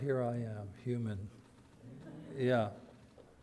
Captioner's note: audience laughter